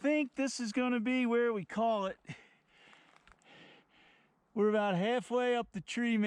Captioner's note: heavy breathing